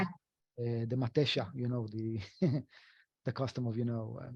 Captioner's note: speaking foreign language; chuckles